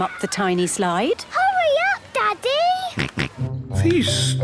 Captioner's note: George snorts